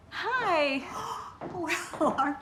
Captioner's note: gasping